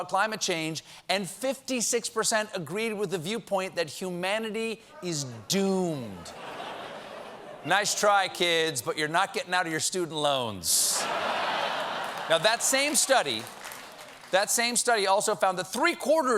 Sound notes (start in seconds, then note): 8.3 laughter